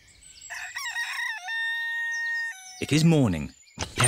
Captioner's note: rooster crows